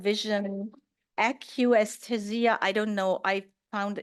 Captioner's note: speaks in German